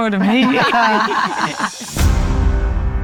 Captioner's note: all laughing